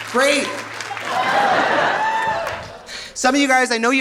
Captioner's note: audience cheering; audience laughing